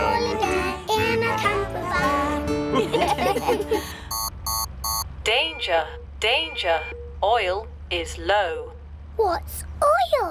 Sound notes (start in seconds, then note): 2.7 laughter; 4.0 beeping